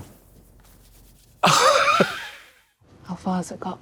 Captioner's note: Katya swishes